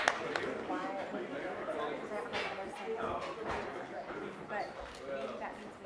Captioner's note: audience applauds; overlapping chatter